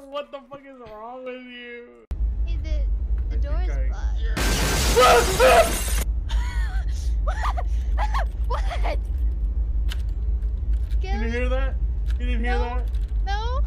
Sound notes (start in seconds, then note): 4.4 extremely fucking loud explosion noise; 4.8 screams; 7.9 laughs